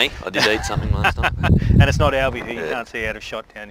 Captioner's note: laughs